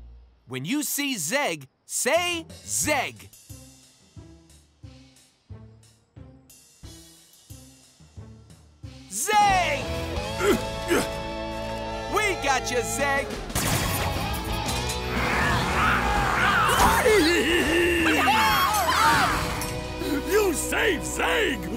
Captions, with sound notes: When you see Zeg, say "Zeg". Zeg! We got you, Zeg. [cheering] You save Zeg.